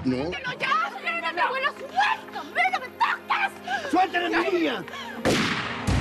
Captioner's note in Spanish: gritos y exclamaciones